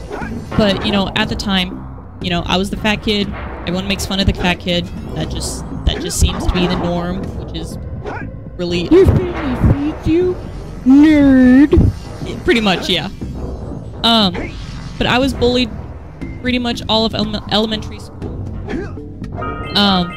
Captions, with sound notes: But you know at the time, you know, I was the fat kid. Everyone makes fun of the fat kid, that just that just seems to be the norm. Which is really awful. (mocking) You're family feeds you? Nerd! Pretty much. Yeah. But I was bullied pretty much all of elementary school.